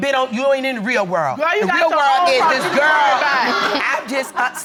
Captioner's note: audience laughing